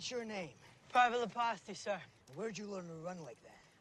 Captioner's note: breathing heavily